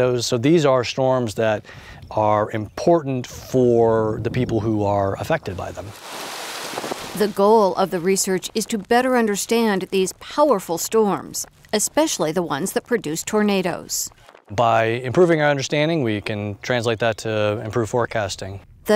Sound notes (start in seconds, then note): 5.8 rain pours